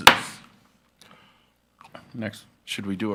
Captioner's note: gavel pounds